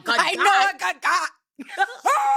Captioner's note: screaming